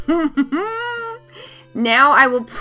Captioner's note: laughs